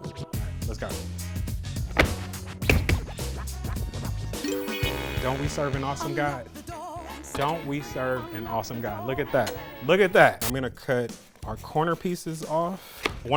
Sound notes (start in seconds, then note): 1.5 upbeat music; 2.7 tapping pan